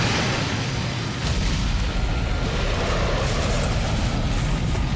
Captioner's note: explosions boom